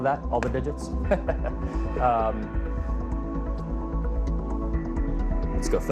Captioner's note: laughs